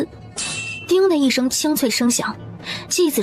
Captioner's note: ding